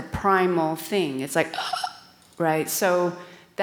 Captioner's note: gasps